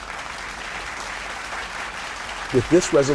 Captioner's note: audience applauds